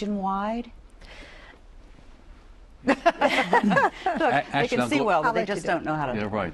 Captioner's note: laughter